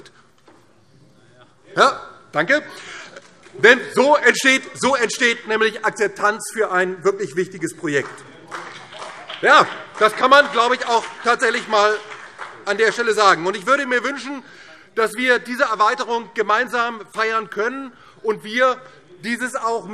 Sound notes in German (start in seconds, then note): 7.7 Vereinzelter Beifall BÜNDNIS 90/DIE GRÜNEN